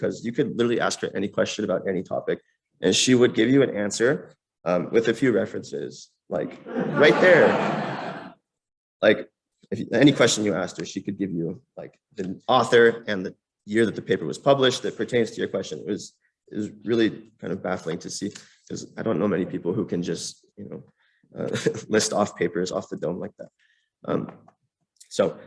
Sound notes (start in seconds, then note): 6.6 laughter